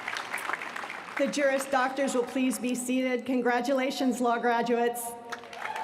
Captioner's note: applause